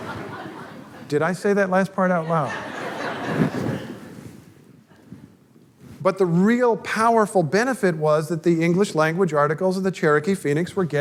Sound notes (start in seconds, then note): 0.0 laughter; 2.2 audience laughter